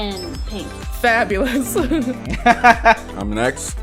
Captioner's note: laughter